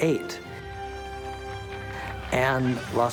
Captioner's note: applause